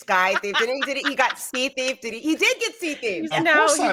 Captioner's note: cast laughing